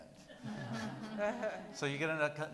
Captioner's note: people laughing